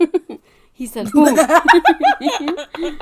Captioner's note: laugh